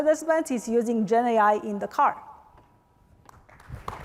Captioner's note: applause